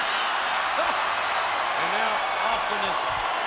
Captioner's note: crowd cheers